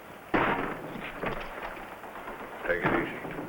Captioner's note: door thuds